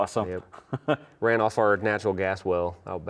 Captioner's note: laughs